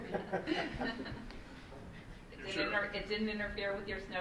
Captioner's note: laughing